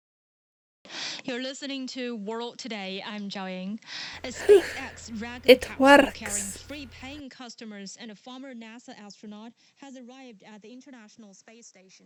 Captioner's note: sigh